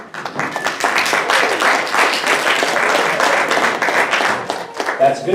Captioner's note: audience applauding